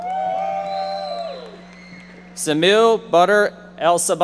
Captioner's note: audience members shouting